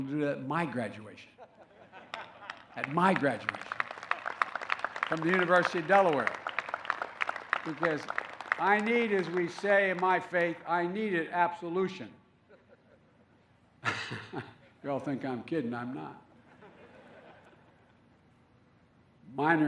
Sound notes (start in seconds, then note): 1.3 laughter; 4.4 applause; 13.8 laughs; 16.4 laughter